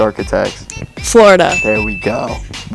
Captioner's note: bell dings